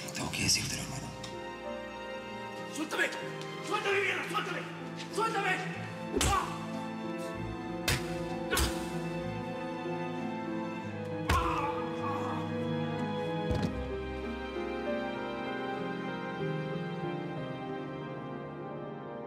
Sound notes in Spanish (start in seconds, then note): 8.5 puñetazo; 11.2 puñetazos; 11.3 puñetazo